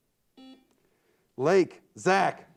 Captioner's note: buzzer beeps